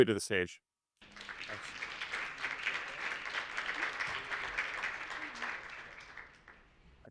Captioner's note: group applauds